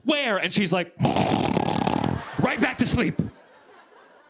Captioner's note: snoring